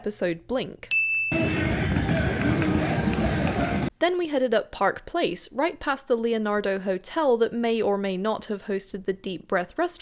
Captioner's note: crowd noise and music